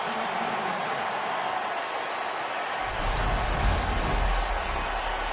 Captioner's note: cheers and applause